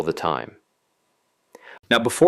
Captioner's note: pause